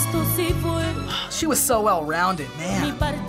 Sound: sighs

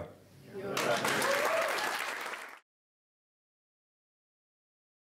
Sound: audience response and applause

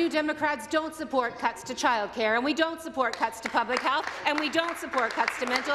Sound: some Applause

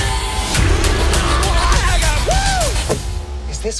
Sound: yells

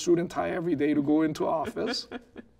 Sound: laughing

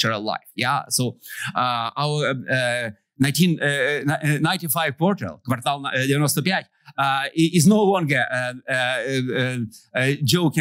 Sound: non-english

